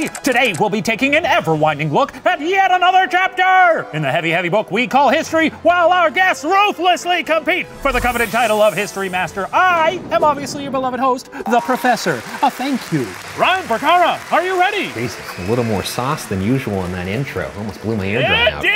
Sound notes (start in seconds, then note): 13.3 applause